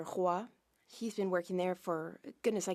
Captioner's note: speaking French